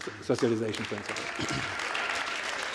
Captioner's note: applause